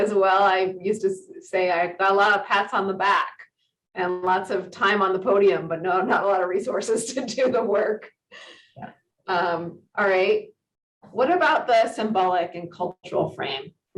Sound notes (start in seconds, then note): 9.3 giggles